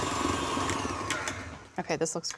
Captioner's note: mixer stops